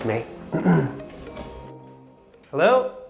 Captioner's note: scoffing